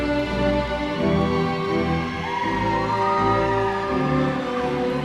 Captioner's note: audience cheering